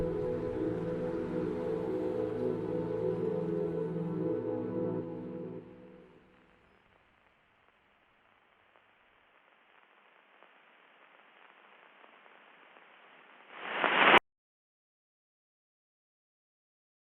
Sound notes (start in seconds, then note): 9.5 static sounds